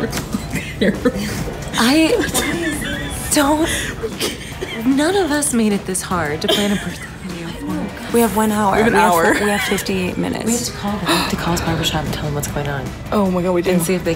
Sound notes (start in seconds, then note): 4.2 laughing